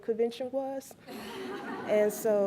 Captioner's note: laughs